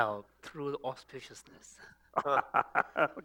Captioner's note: laughter